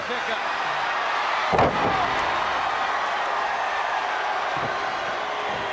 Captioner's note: crowd cheering